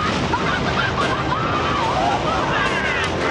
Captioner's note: laughing